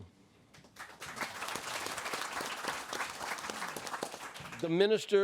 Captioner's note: audience applauds